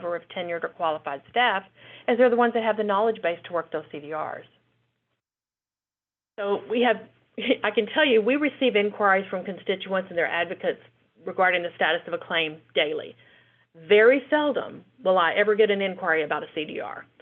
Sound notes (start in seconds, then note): 6.6 chuckles